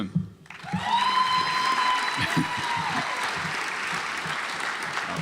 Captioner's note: audience applauds